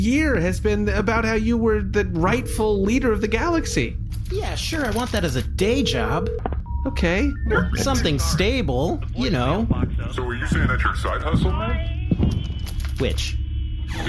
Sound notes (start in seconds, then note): 5.6 Nermut’s phone goes to voicemail